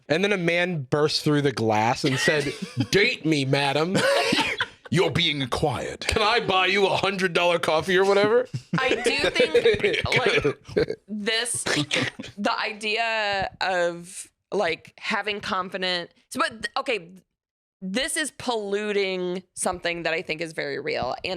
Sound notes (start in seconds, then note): 11.8 slurpy smooch